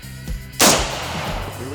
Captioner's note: gunshot